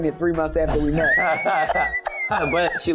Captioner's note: laughter